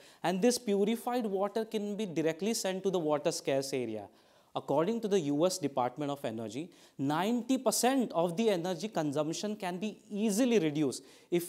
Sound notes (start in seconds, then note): none